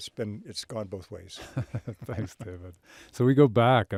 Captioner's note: chuckles